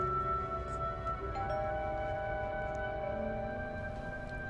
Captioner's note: doorbell ringing